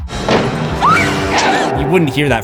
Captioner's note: screams